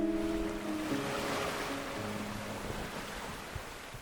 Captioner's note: waves crashing